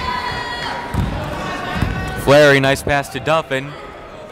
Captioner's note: yelling